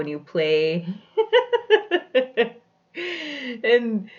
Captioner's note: laughs